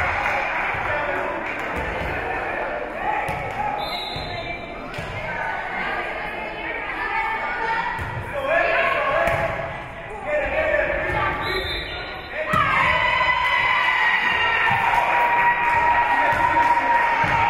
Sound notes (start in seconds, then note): 0.0 spectators cheering and applauding; 3.8 whistle being blown; 6.1 spectators shouting encouragements; 11.4 whistle being blown; 12.9 spectators cheering and applauding